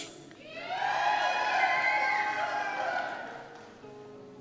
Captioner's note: cheers